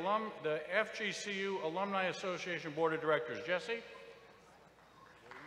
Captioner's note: applause